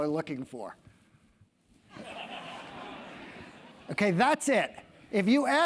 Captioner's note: laugh